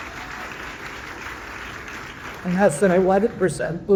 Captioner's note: audience applauding